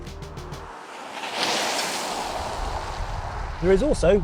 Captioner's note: car running